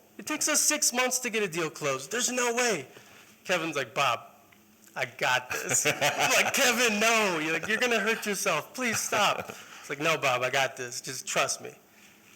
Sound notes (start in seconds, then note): 5.4 laughter